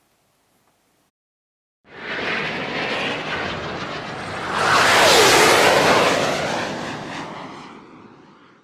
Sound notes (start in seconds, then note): 1.9 jet whooshing